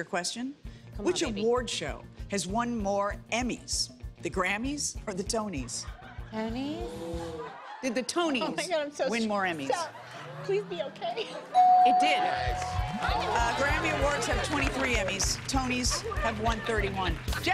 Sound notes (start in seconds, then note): 11.6 ding